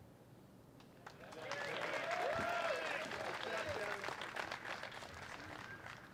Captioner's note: applause